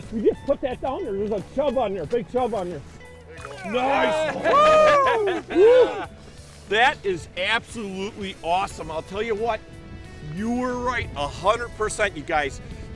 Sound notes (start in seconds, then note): 3.4 cheering